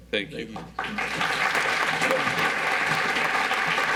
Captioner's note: audience applauds